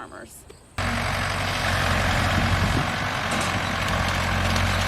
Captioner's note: tractor rumbles